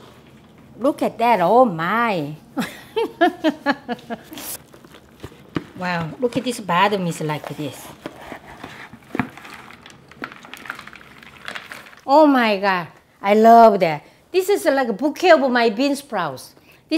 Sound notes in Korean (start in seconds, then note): 2.6 웃음소리